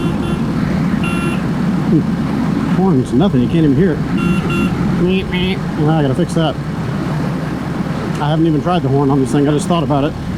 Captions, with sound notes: [beep, beep] the horn is nothing, you can't even hear it meep meep, I've gotta fix that! I haven't even tried the horn on this thing I just thought about it